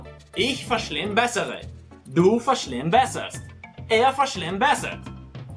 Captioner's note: speaking in Germany